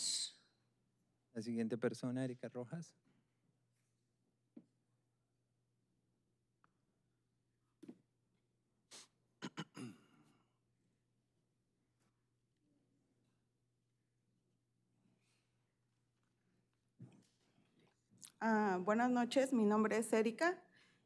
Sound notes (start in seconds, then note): 9.7 speaking spanish